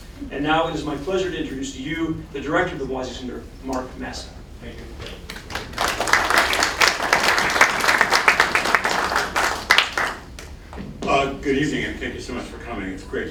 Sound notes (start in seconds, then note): 5.2 applause